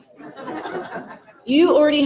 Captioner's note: audience laughing